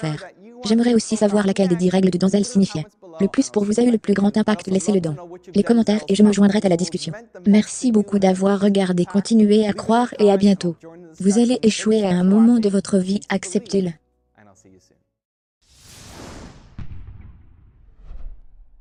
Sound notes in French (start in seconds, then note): 15.7 whooshing